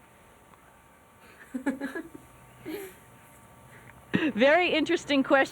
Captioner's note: laughter